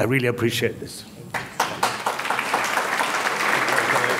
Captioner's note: audience clapping